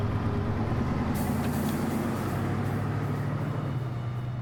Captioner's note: car driving away